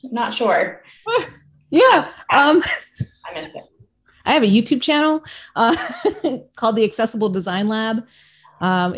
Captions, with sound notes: - Not sure. - I have a YouTube channel (laughs) called the Accessible Design Lab.